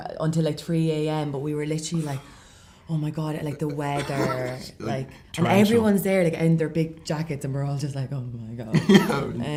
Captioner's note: shivers, laughs